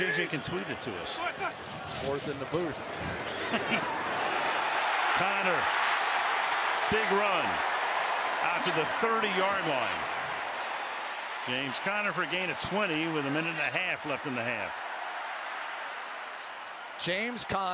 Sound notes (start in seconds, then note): 3.0 chuckles; 6.1 cheering